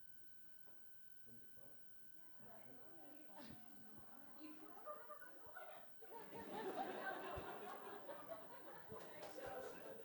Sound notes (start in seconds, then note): 1.9 audience murmuring; 6.1 audience laughing